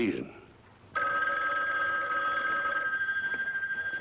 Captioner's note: phone ringing